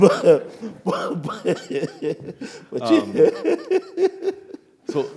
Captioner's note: laughs